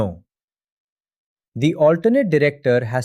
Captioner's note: pause